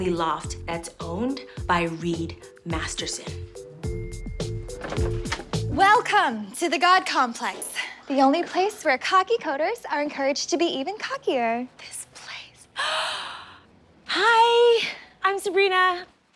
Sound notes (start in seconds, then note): 13.3 gasps